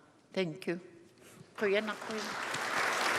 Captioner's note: speaking Indigenous language; applause